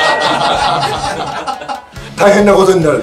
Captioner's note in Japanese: 笑い